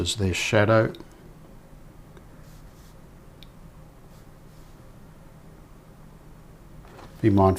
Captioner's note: silence